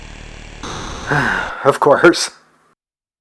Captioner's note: sigh